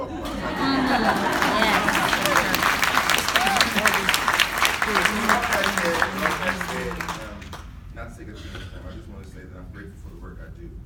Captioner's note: clapping